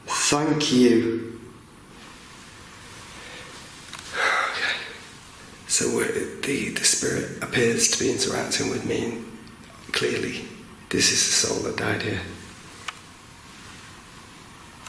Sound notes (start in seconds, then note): none